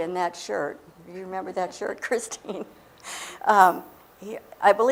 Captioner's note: laughing